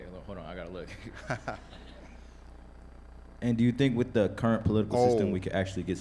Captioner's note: laughs